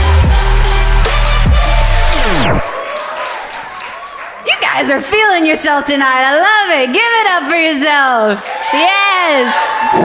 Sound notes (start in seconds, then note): 1.9 record scratching; 8.9 applause